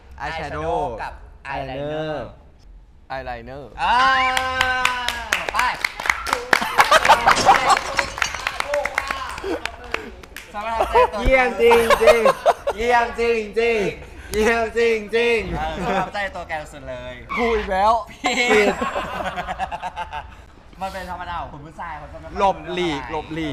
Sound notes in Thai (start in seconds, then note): 8.4 ปรบมือ